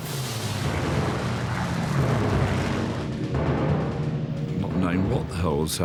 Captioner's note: dramatic music; plane engines roaring